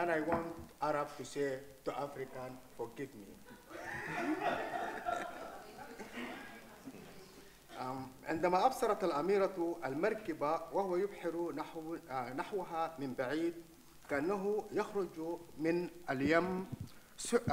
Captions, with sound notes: and I want Arab to say to African, "forgive me." (chuckles) (audience laughing) (speaks in foreign language)